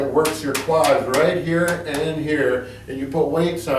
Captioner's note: patting quads